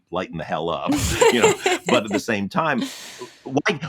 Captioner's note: laughs